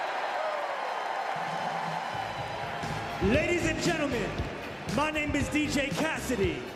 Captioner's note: cheers and applause